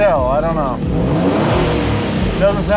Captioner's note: engine revving